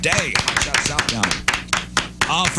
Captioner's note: clapping